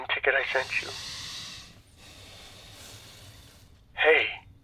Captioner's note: sighs